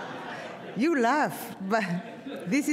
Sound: audience laughs

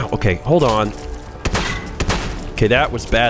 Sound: blam!

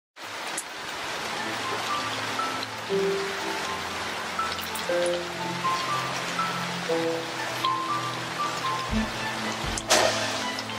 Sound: rain sounds

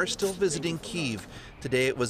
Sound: speaking alternate language

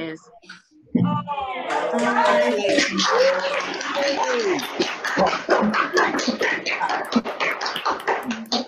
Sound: more cheering

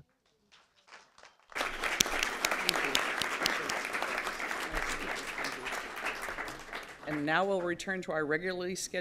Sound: applause

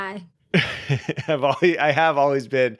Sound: laughs

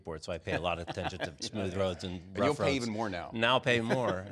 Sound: laughs

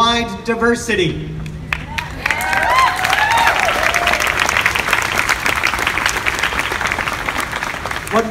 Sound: applause

